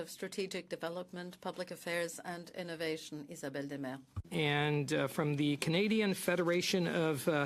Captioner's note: speaking French